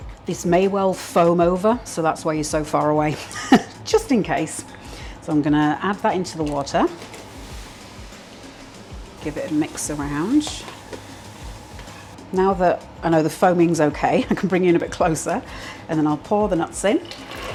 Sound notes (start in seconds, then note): 8.1 fizzing